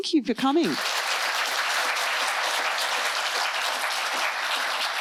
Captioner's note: applause